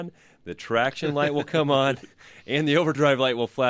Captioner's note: both laugh